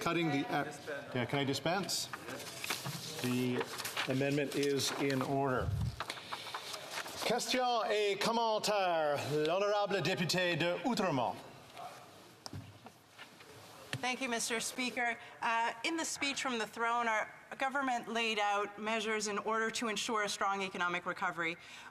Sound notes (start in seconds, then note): 14.1 speaking French